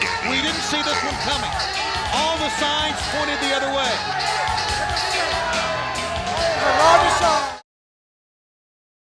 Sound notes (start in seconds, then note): 4.3 crowd clamoring